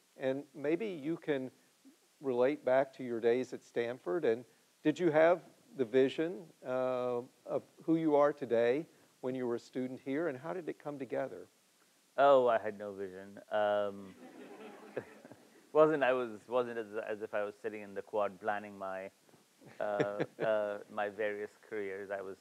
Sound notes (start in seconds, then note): 14.1 audience laughs; 14.2 Siddhartha chuckles